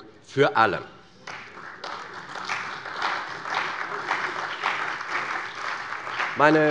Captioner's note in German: Beifall bei der CDU und dem BÜNDNIS 90/DIE GRÜNEN